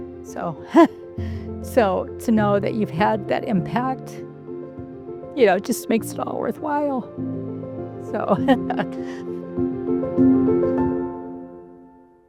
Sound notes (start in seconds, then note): 8.3 laughs; 9.7 bright music